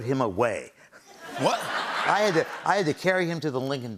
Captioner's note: laughter